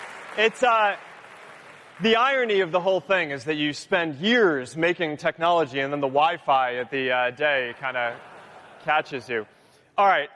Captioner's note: cheering